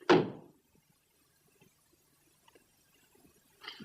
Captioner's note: stamps floor